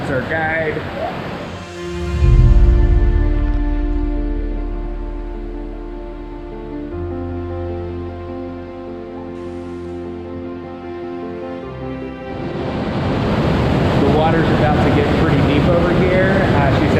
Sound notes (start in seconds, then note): 2.8 intense music; 12.4 water crashing